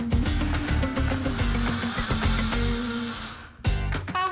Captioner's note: blender whirs